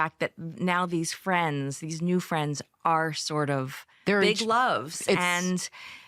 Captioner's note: none